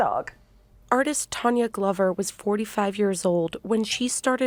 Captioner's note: voice-over